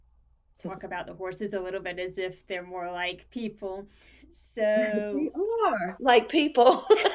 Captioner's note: laugh